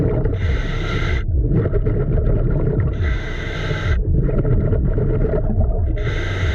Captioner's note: water bubbling; mouthpiece hissing